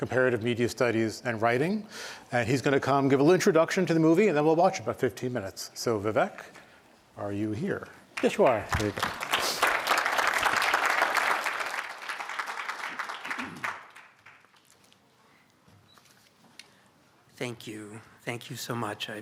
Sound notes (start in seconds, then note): 8.1 applause